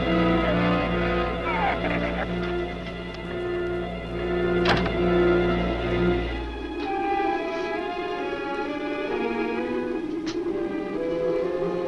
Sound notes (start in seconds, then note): 0.0 shrew chatters; 4.5 door slams; 6.1 muffled wind howls; 6.1 suspenseful music continues